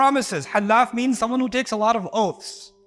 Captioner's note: Arabic